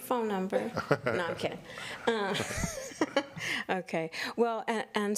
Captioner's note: chuckles